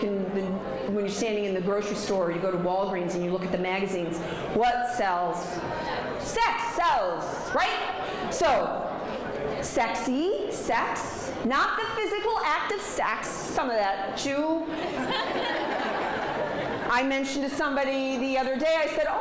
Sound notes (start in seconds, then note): 14.7 audience laughs